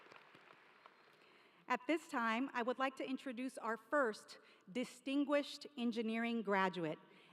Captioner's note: applause